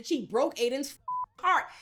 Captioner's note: beep